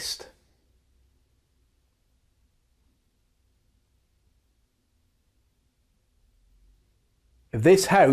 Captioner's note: silence